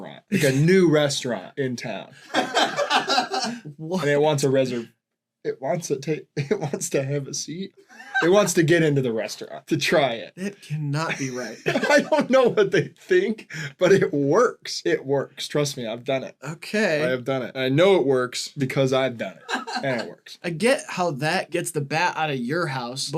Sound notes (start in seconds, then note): 0.0 laughs; 2.2 laughter; 11.0 laughing